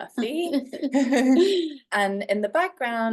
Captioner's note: laughs